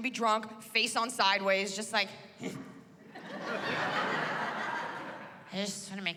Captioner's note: laughter